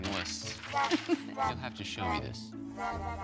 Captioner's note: laughs